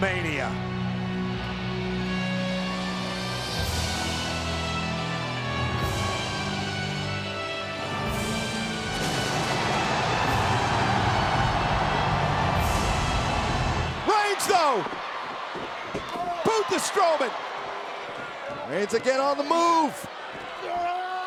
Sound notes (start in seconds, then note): 0.1 ominous music continues; 8.9 thunder rumbles; 9.8 audience cheers